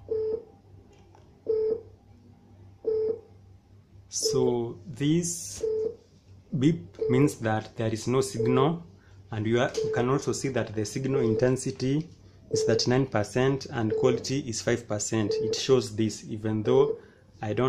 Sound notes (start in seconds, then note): 1.6 low frequency beeping sound